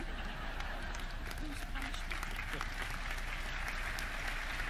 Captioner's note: audience laughing